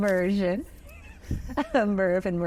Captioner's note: chuckles